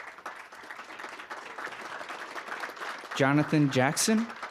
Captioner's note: applause